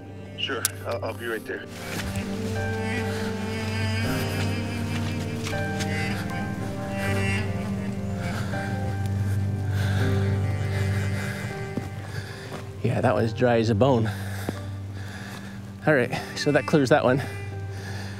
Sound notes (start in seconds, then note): 1.8 footsteps crunch; 1.8 somber music continues